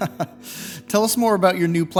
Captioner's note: interviewer chuckles